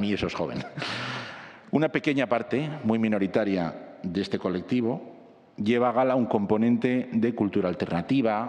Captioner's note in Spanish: risas